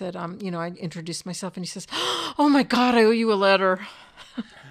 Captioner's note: gasps; chuckle